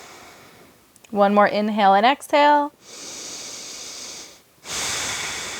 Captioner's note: breaths heavily